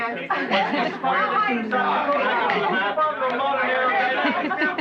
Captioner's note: chattering